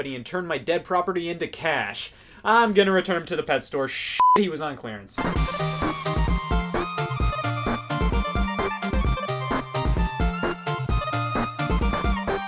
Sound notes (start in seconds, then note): 4.2 beep; 5.2 electronic music